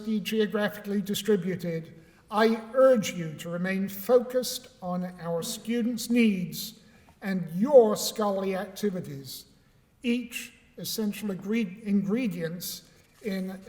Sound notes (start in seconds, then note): none